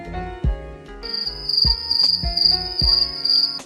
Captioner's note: crickets